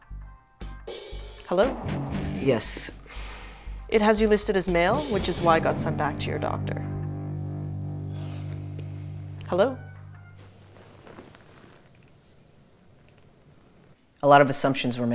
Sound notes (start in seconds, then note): 3.0 sighs